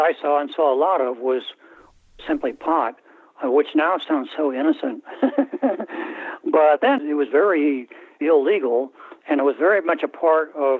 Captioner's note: laughter